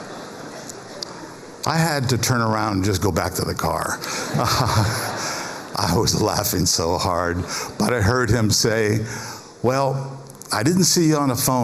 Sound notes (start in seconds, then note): 0.2 laughter